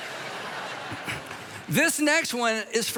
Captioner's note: congregation laughs